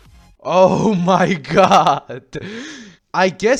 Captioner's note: gasp